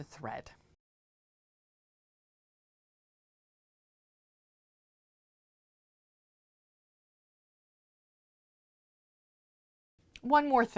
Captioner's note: no Sound Present